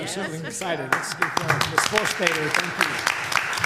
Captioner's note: applause